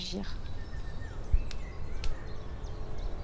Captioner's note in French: bruits d'oiseaux